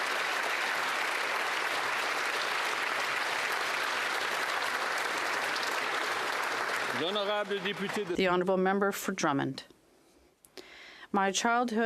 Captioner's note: applause